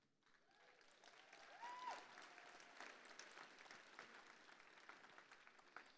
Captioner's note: applause